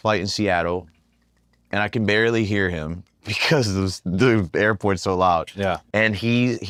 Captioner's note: laugh